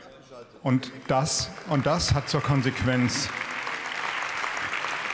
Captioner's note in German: Beifall